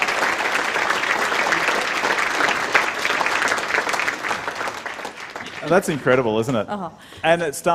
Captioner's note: applause